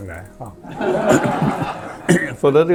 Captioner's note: laughs